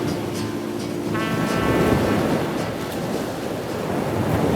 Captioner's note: waves crashing